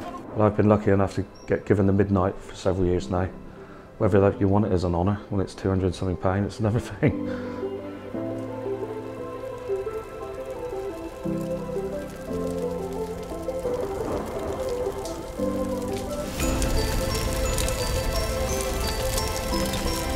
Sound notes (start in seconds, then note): 7.1 chuckles; 16.3 flames crackling